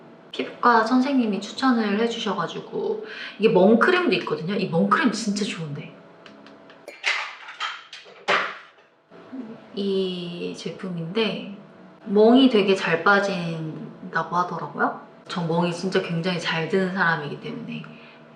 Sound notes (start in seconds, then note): 6.8 clatter clatter